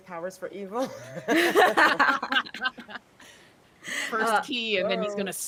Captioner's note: people laughing